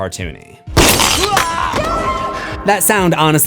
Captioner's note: screams